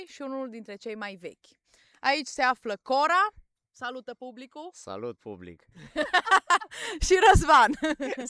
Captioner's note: everyone laughs